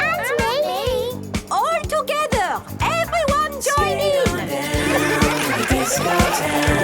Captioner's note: laughter